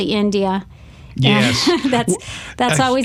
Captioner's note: laughs